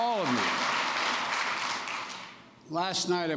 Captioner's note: applause